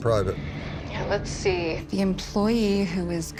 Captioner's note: on phone